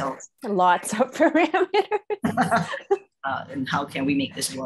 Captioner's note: laughing